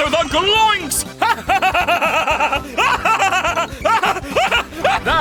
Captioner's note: cackling maniacally